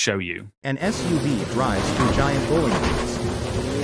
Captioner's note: bowling pins being struck